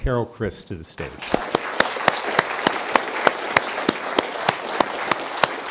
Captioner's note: applause